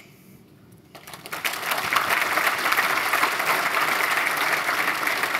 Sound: applause

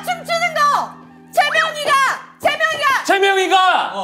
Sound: stomping with frustration

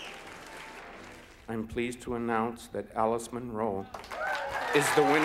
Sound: applause

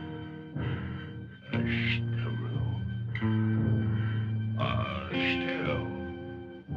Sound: caveman speaking

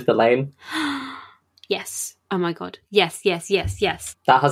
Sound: gasps

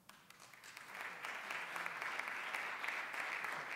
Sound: applause

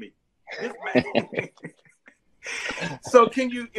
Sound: both laugh

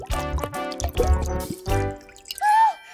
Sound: pouring

